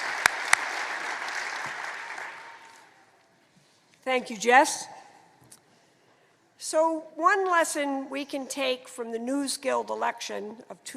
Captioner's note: applause